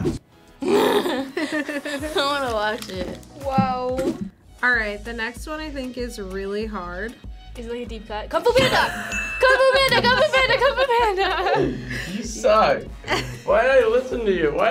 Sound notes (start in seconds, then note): 0.6 laughing; 11.2 bell chimes